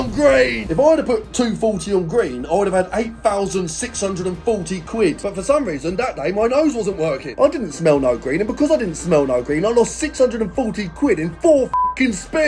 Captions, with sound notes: If I'd have put 240 on green, I would've had 8,640 quid. But for some reason, that day, my nose wasn't working. I didn't smell no green and because I didn't smell no green, I lost 640 quid in four (beep) spins.